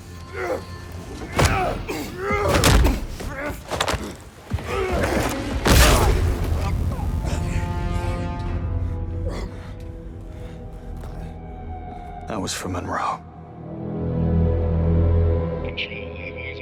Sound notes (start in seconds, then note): 0.0 groaning